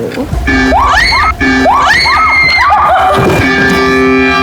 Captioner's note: ooogah-ooogah